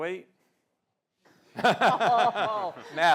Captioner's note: laughter